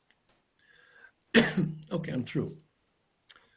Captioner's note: coughs